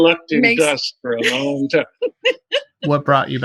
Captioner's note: laughter